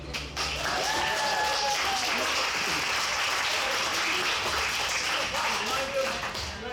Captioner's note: audience applauds; audience cheers